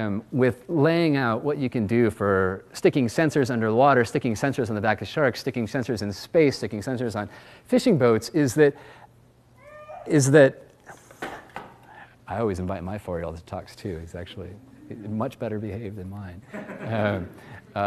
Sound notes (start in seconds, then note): 9.6 child cries; 16.5 audience laughs